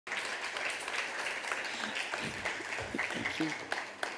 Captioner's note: applause